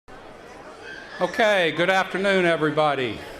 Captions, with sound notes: [ BACKGROUND TALKING ] >> OKAY. GOOD AFTERNOON, EVERYBODY.